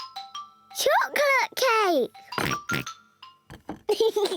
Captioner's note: oinks; giggles